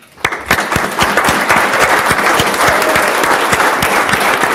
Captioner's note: audience applauds